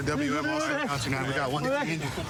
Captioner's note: excited chatter